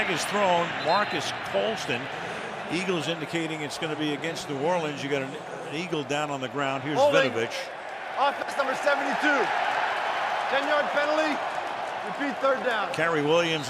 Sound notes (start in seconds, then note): 9.8 cheering